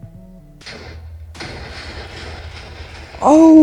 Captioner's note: laggy explosion sounds